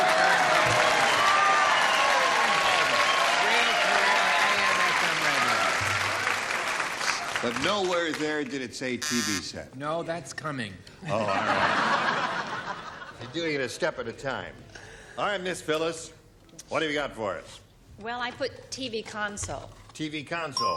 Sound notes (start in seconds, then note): 11.0 laughter